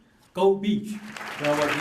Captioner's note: applause